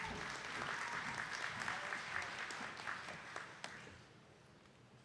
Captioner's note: attendees clapping